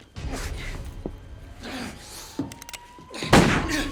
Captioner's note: police sirens wailing; gunshot blares